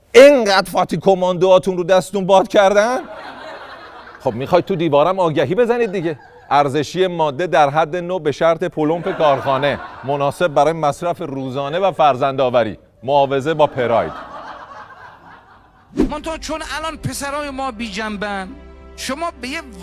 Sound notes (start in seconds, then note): 2.8 laughter; 8.9 laughter; 16.1 laughter